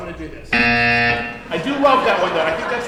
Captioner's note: buzzing